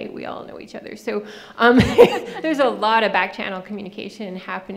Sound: laughing

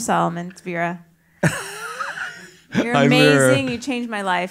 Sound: laugh

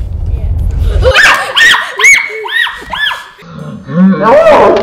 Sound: shouting in fear

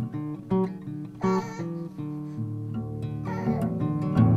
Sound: baby whining

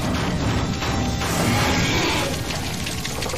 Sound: centipede roars

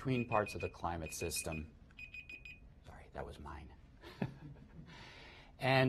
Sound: cell phone beeps; laughter

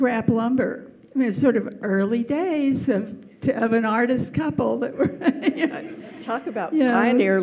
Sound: laughs

